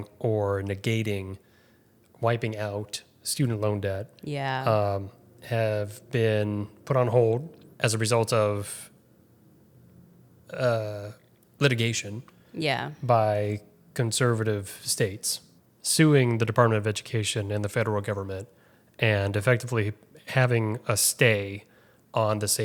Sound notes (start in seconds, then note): none